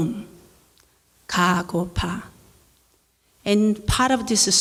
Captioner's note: speaking in foreign language